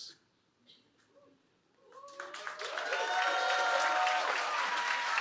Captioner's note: cheering